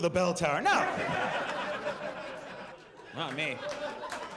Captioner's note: audience laughs